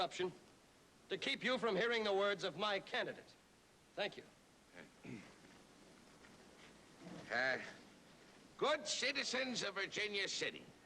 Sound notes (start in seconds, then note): 4.8 clears throat